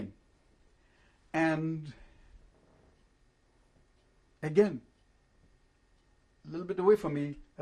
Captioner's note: pauses for 3 seconds